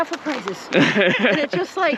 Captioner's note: laughs